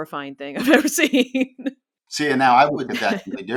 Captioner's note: laughs